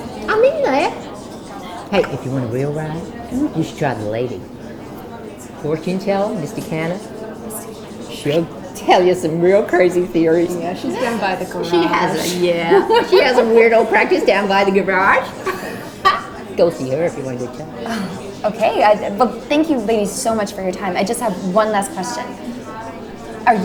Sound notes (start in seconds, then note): 15.9 laughs